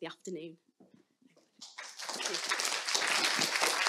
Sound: applause

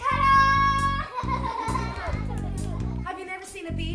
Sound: children laugh

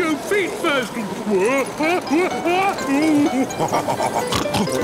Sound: shouting; laughing, snorting

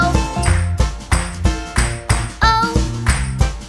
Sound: clap

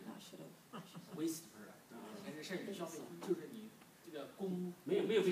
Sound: speaking foreign language

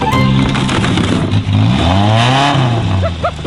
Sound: crunching; engine revving

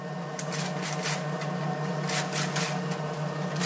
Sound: whirring, rustling noises

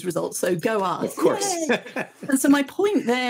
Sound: chuckles

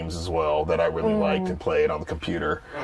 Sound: sounds of agreement

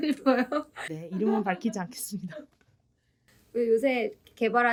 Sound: laughs

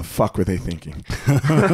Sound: laughs

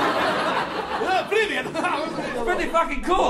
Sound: excited “Polish”

